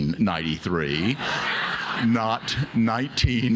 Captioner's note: audience laughs